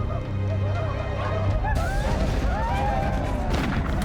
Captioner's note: men whooping